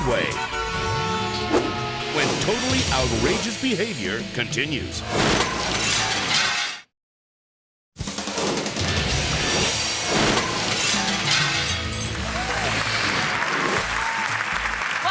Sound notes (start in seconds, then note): 0.0 car honks; 5.6 glass shatters; 7.9 energetic music; 10.0 glass shatters; 12.1 audience clapping